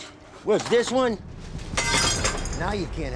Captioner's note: glass shatters